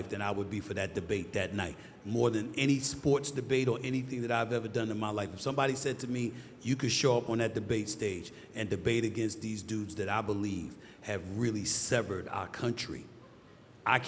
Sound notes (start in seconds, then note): none